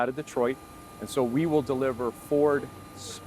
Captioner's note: hydraulics whining